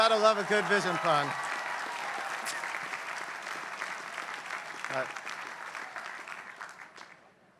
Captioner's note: laugh; applause